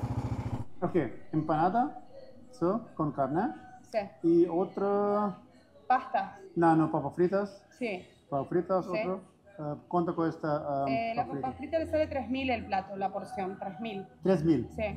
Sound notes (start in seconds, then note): 0.8 speaking in Spanish